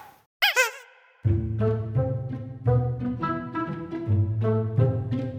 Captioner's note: Nattering with Nah